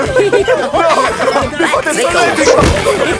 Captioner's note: laughing